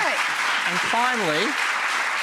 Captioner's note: applause